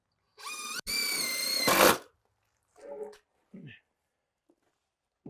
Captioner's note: power tool whizzing